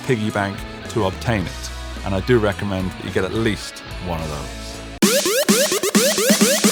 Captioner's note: tape rewinding